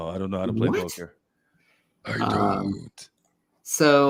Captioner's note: deepens voice